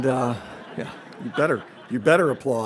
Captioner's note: audience laughs